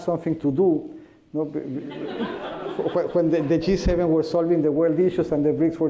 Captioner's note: laughter